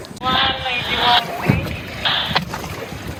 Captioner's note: voice over radio